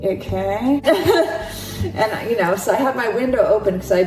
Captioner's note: laughs